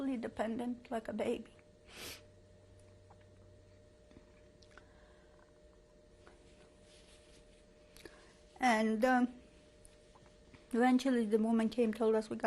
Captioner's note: pauses for 7 seconds